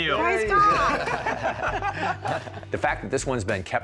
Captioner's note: laughter